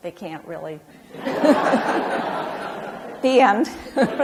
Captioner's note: audience laughs; laughs